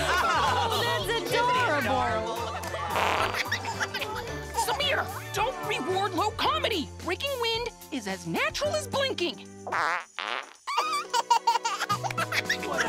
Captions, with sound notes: -That's adorable. -Isn't he? Look at that. -[fart plays] -[laughs] Samir, don't reward low comedy. Breaking wind is as natural as blinking. -[farting medley] -[all laughing]